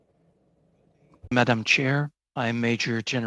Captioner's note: speaking in french